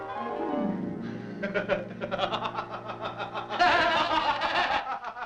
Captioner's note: laughter